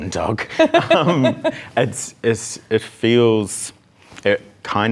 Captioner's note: laughs